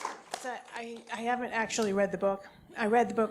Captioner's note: applause